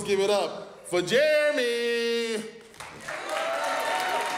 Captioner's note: audience applauds